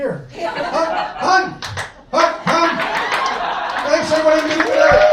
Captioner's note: claps